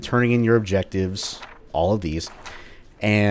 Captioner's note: journal opens/closes